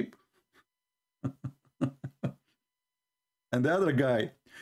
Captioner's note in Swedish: Skratt